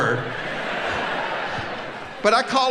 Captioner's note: audience laughing